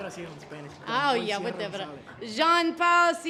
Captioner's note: speaks foreign language